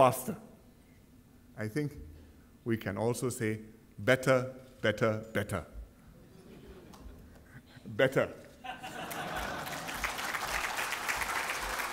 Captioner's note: laughter and applause